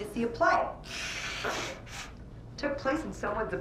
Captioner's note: Scarlett sniffling